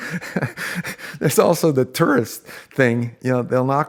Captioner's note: laughing